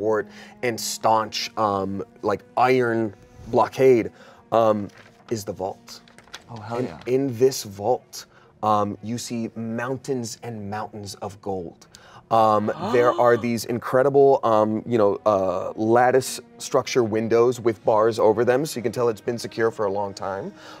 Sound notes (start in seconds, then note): 12.7 gasps